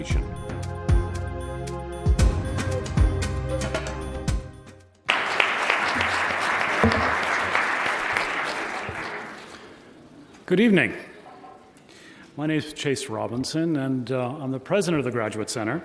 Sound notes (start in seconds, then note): 5.0 applause